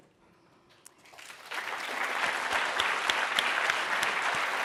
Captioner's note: applause